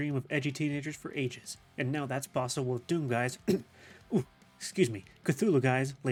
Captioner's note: cough cough